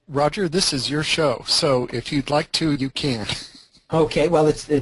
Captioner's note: laughs